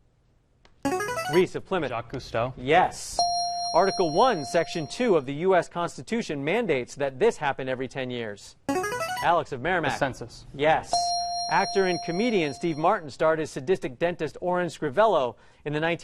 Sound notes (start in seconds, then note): 0.8 ringer; 3.2 ding; 8.7 ringer; 10.9 ding